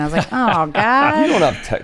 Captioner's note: laughs